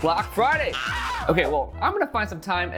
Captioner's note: man screaming